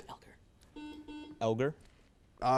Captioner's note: buzzer buzzes